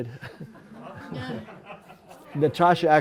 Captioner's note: laughter